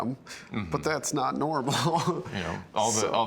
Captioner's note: laughs